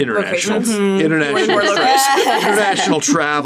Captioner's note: laughing